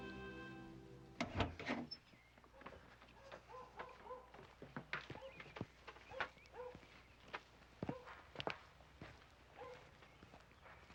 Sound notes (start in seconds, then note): 6.5 dog barking